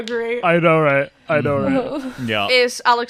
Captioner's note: sighs